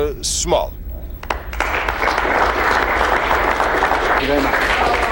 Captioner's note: crowd applauds